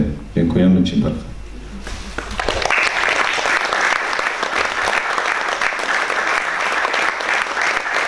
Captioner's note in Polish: oklaski